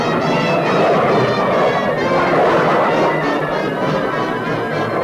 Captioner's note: suspenseful music continues; plane engines revving